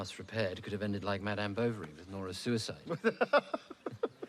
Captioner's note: william laughs